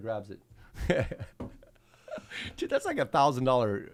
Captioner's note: laughing